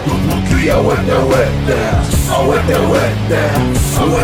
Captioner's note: non-english speech